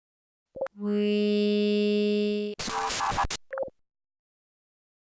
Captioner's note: bzzt